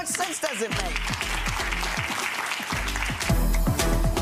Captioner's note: audience applauds; bass thumping beat